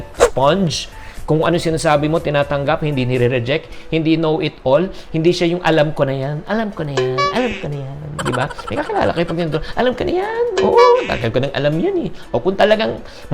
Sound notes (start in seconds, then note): 7.2 honk; 8.1 laughs; 10.7 honk